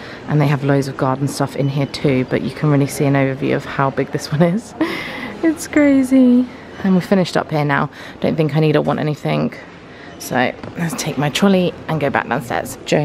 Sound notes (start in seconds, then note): 4.8 laughs